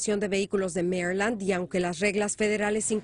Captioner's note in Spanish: hablan inglés